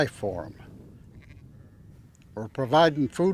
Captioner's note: sheep bleating